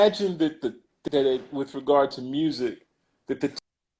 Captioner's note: glitch